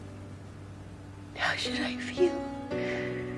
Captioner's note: voiceover